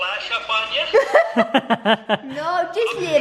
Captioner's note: laughing